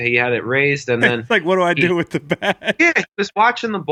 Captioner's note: laughs